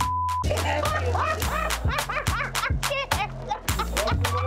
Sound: beep; laughing

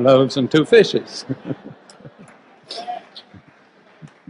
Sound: group laughs

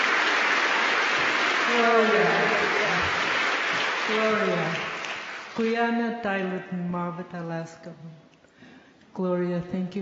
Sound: speaking yupik

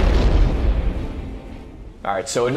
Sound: explosion

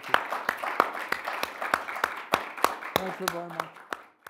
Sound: audience clapping

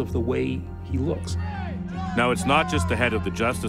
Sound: chanting

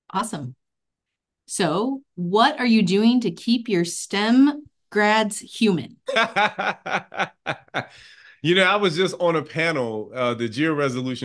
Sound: laughs

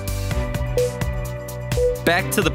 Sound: timer beeping

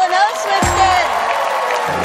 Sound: cheering

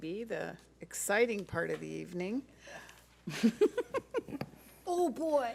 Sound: laughs

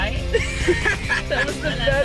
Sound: laughing

